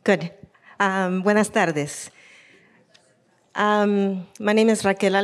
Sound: speaking in foreign language

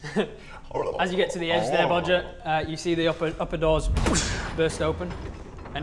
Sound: boosh

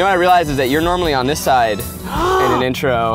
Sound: gasps

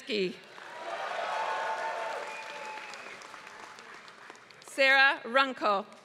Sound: applause

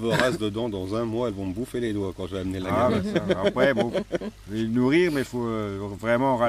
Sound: laughs

